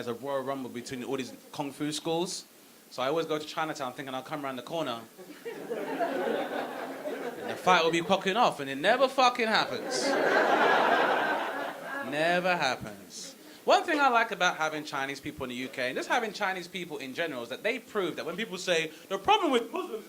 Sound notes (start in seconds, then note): 5.2 audience laughing; 9.7 audience laughing